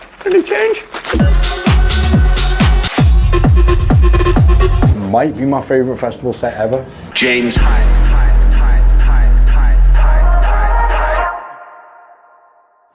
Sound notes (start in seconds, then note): 1.1 upbeat EDM music; 7.5 voiceover; 8.9 voiceover echoes; 10.0 energetic music